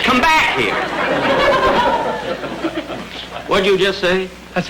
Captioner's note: audience laughter